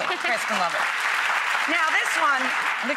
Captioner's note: audience applause